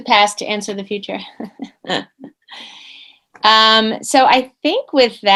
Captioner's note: laughing